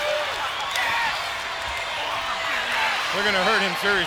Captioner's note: claps